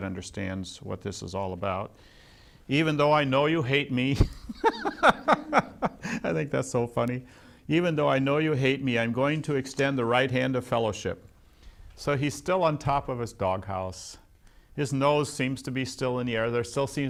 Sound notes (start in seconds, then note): 4.1 laughs